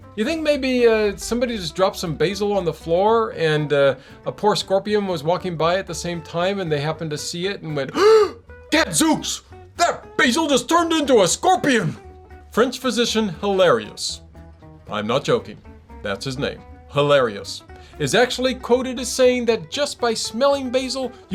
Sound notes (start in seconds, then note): 7.9 scared breath